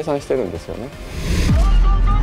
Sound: graphics whooshing

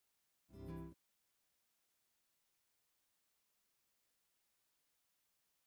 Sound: silence

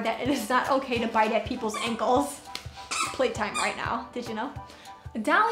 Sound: squeak squeak

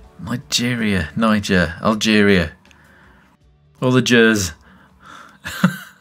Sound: laughs

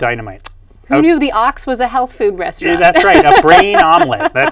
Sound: laughs

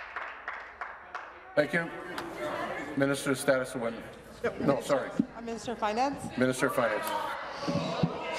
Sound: applause

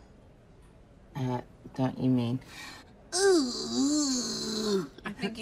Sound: exaggerated disgusted groan

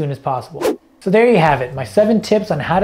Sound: air whooshing

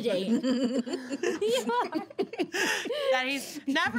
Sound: girls laughing

